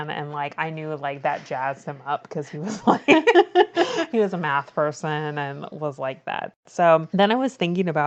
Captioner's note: laughs